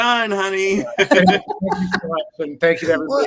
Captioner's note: all laughing